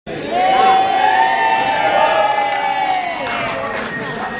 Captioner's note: cheering and Applause